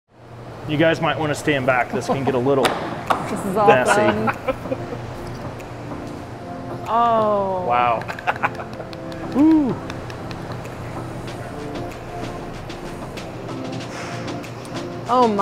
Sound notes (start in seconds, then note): 7.9 laughing; 11.5 bright upbeat music